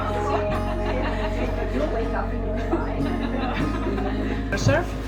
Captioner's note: calm music; people talking and laughing